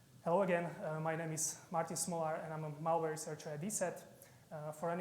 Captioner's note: none